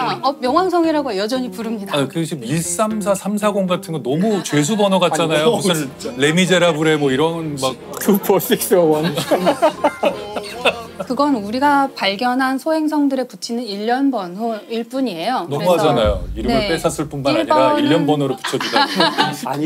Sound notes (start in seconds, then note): 9.0 giggling